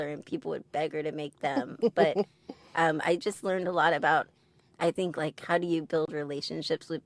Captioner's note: giggles